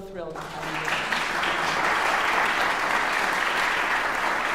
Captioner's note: audience applauding